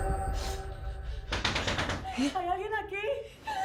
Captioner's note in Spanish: Llaman a la puerta